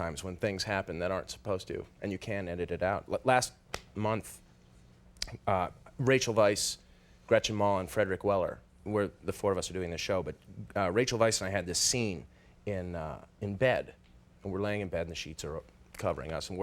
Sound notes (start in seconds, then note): none